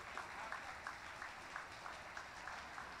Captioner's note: applause